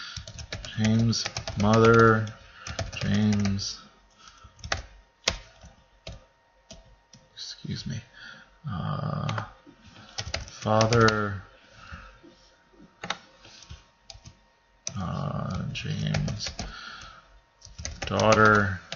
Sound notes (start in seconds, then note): 0.1 typing; 14.9 typing